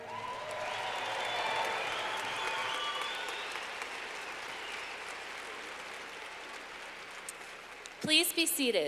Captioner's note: clapping